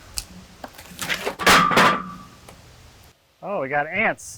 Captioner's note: metals clanking